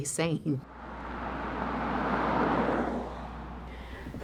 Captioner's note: car engine